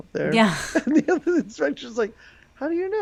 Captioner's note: laughing